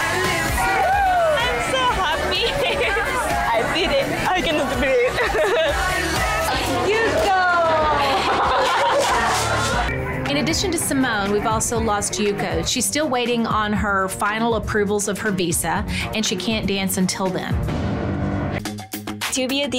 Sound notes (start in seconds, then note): 0.1 woman cheers; 2.9 laughs; 6.3 laughs; 8.3 women laugh